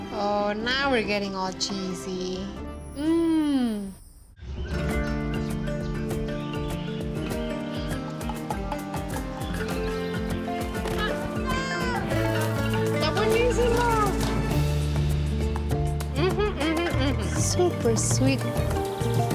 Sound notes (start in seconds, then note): 4.3 birds chirping; 10.8 child shouts; 12.6 speaks Spanish